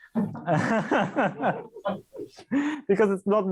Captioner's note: laughs